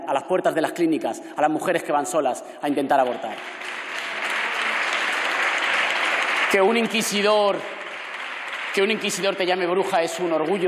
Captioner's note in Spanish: Aplausos